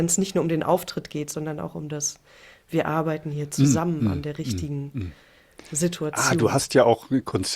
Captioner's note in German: räuspern